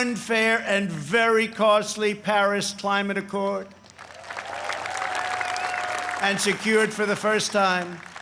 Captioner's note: applause